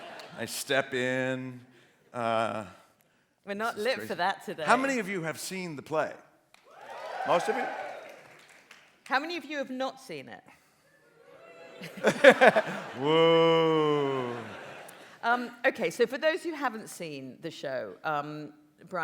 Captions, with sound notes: I step in... — We're not lit for that today. — How many of you have seen the play? (AUDIENCE CHEERS) Most of you? How many of you have not seen it? (DESPONDENT CHEER) "Wooo!" OK, so, for those who haven't seen the show, Bryan,